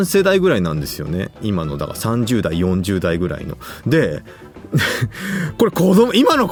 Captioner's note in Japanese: 笑い